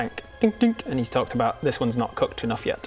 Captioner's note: dink dink